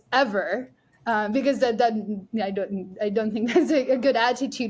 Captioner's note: laughs